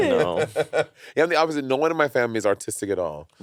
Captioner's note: Monét laughing